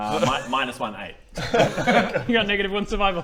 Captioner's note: worried laughs